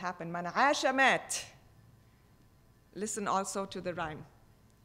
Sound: speaking foreign language

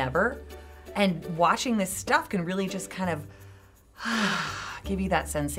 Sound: sighs

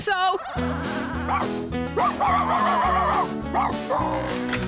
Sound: barking

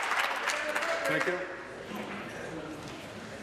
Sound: applause

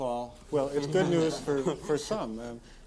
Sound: all laughing

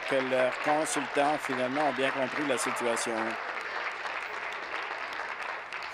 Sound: applause

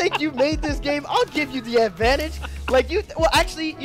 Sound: laughing

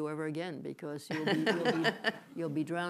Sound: laughter

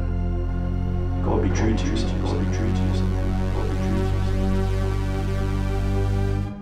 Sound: echo

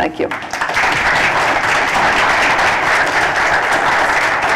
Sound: applause

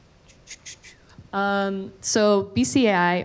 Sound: shushes

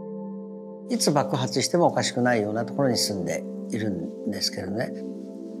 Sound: speaking in Japanese

